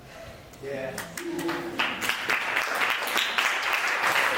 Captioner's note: audience applauding